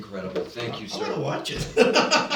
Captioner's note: laughter